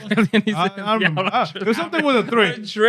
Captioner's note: laughing